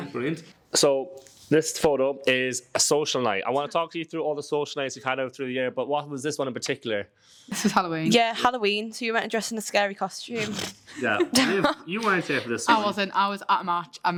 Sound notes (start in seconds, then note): 10.9 laughing